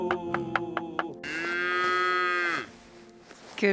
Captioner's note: cow moos loudly